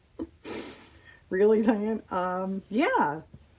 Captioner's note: laughs